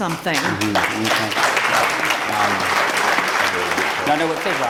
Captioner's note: applause